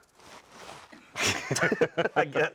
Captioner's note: both laughing